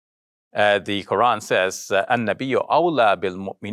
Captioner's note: speaking in foreign language